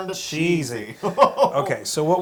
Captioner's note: laugh